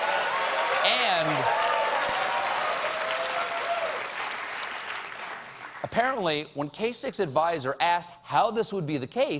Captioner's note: applause